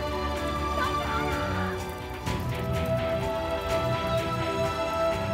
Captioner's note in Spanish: voz a lo lejos